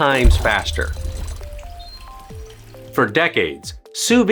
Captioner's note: water gurgling; gentle music